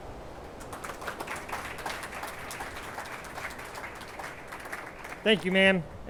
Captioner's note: attendees applauding